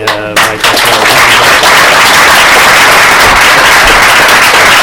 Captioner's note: applause